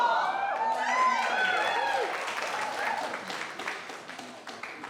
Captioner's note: cheering and applauding